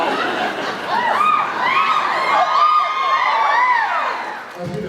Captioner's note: laughs; cheers